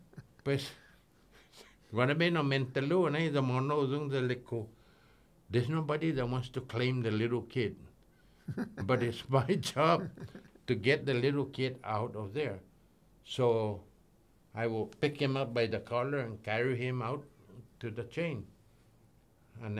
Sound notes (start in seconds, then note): 8.4 chuckles